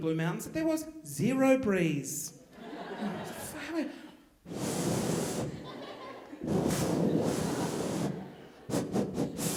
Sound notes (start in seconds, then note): 2.5 audience laughing; 4.4 blowing air